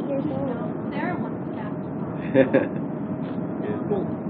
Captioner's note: gülüyor